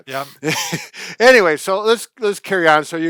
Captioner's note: laughing